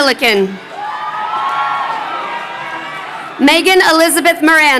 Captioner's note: crowd cheering